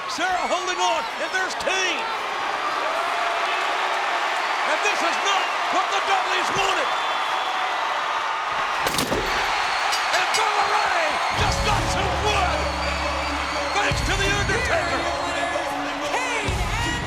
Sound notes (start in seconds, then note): 2.4 crowd cheering; 8.6 body thudding; 9.7 bell dinging